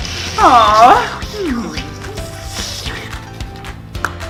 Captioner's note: makes a strange sucking sound; moans and hums contently; tongue pops